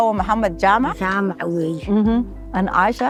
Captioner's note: mother speaking in Nepali